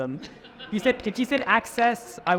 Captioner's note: audience laughing